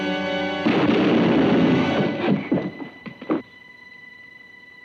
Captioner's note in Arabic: صوت البندقية